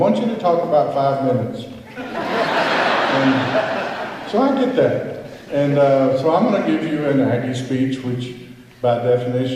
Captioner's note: laughter